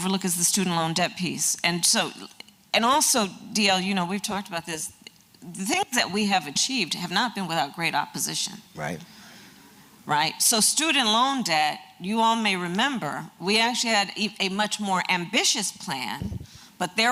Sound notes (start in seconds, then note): none